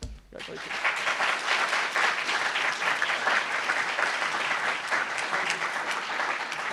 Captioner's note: applauds